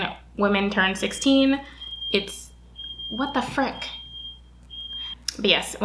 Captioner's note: loud beeping